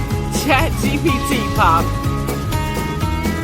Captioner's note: laughs